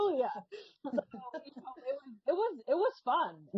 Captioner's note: laughing